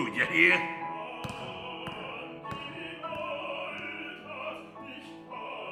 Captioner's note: footsteps retreating